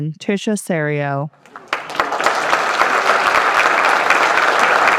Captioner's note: applause